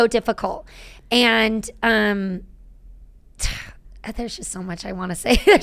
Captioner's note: sighing